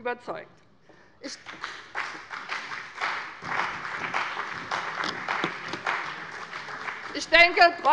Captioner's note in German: Beifall bei dem BÜNDNIS 90/DIE GRÜNEN und der CDU